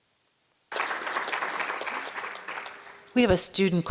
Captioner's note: applause